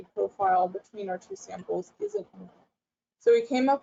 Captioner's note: audio drops out